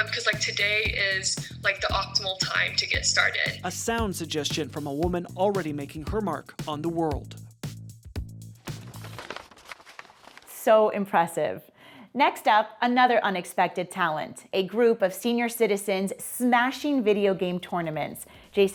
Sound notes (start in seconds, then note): 7.4 upbeat music; 8.6 paper crinkling